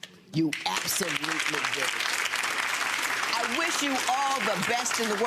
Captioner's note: crowd clapping